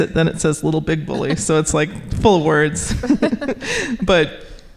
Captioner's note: laughing